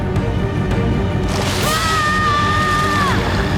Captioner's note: screaming